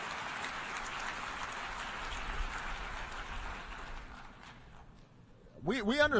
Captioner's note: applause